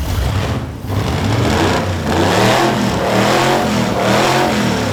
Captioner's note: engine roaring